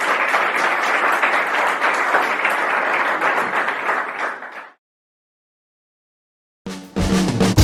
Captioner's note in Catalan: Aplaudiment